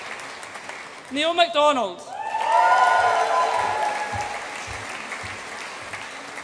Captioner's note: audience applauds and cheers